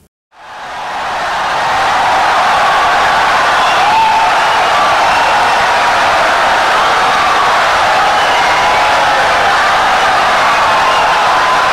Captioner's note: wild applause and cheering for 17 seconds